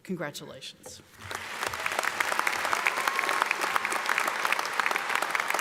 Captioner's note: audience applauding